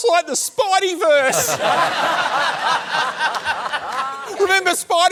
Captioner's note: laughter